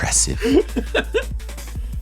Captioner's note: laughing